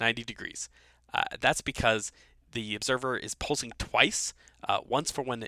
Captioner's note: voiceover